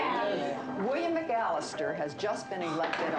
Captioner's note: students murmuring